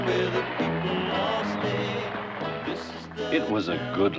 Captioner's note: audience applauding